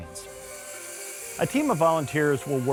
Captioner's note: electric saw buzzing